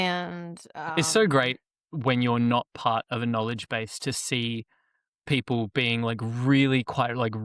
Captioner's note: laughs